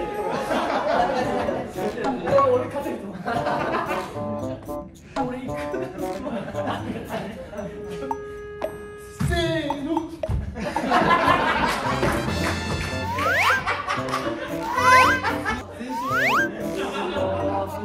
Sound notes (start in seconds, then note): 13.0 sound effects:ta-da; 13.0 sound effect:Hyo-yi; 15.9 sound effect:hop